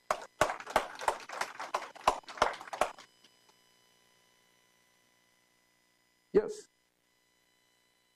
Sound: applause

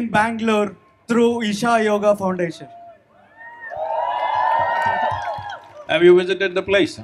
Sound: cheering/Applause

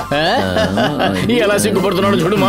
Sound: laughs

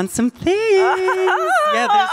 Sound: laughing

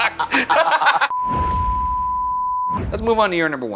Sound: group laughing; screen beeping

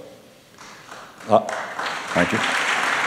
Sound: applause

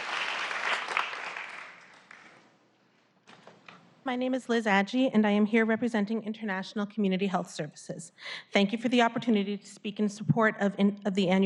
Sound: applause

